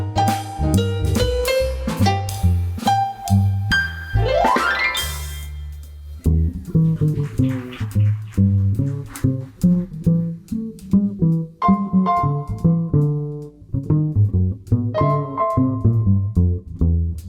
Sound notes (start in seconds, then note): 6.2 applause, bass solo begins